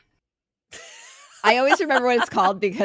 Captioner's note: laughing